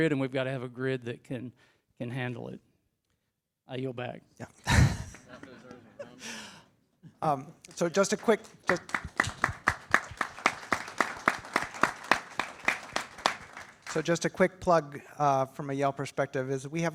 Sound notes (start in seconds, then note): 4.6 chuckles; 7.6 attendees applaud